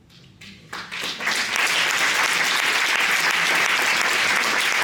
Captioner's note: applause